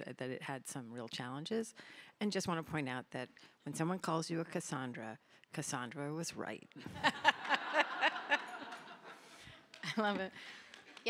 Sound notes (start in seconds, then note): 6.8 laughter